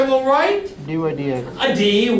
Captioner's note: voiceover